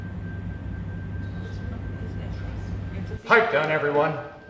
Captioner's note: staff chattering